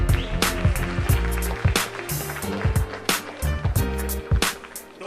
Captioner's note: applause